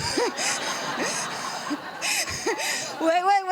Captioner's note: laughter